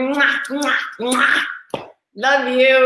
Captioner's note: blowing kisses